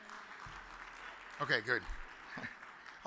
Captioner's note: audience applauds